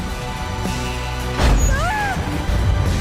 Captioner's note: a snap, then a scream